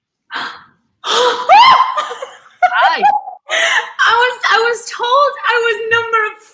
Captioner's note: gasps